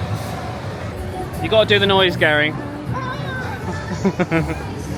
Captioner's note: laughing